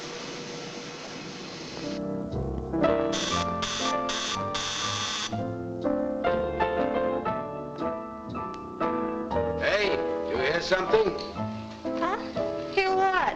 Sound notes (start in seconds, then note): 2.4 gentle music; 3.1 doorbell buzzing; 6.4 gentle music